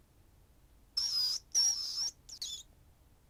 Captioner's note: rat squeaks